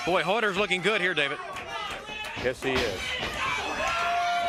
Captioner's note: crowd cheering